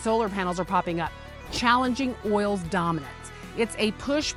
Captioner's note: text whooshing